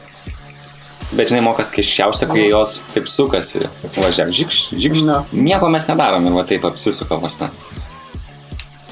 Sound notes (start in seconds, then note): 4.2 mimics spinning sounds